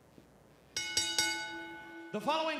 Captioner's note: bell ringing